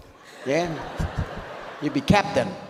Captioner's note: audience laughs